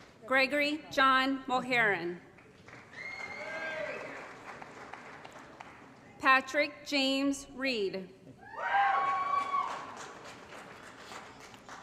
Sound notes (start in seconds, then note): 2.5 applause & Cheering; 8.6 applause & Cheering